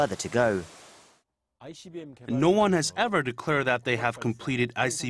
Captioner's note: Korean